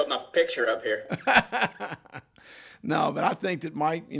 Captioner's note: laughs